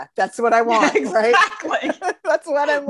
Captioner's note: laughs